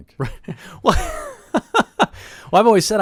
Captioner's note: laughs